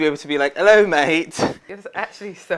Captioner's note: both laughing